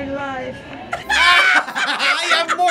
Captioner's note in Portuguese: gargalhada